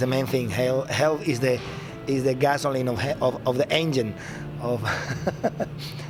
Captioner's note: laughs